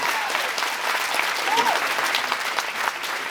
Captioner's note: applauds, cheers; applauds